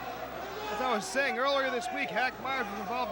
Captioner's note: crowd chatter